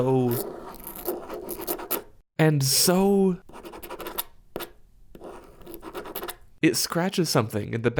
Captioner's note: pen noises